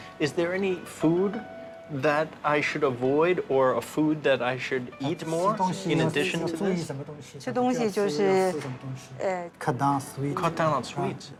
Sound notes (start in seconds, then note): 5.5 speaking Chinese dialect